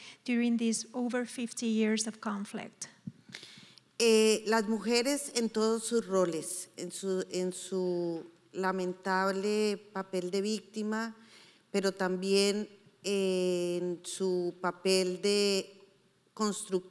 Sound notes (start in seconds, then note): 3.9 speaking in foreign language